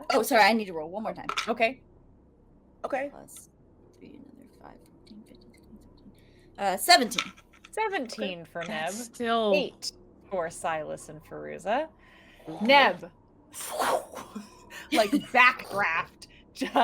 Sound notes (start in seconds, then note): 13.6 mouth whooshing air